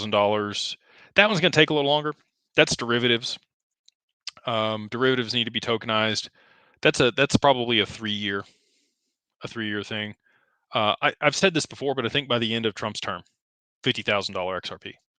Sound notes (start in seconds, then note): none